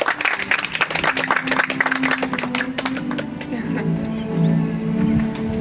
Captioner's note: audience applauds